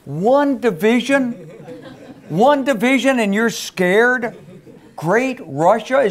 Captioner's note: laugh